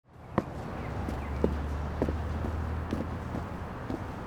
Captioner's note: feet tapping